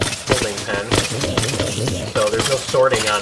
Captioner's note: splat